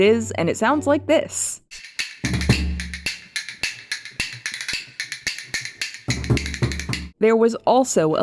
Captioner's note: fast click clack noises